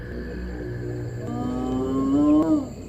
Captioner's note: calling